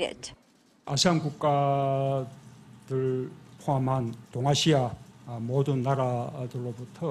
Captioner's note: Korean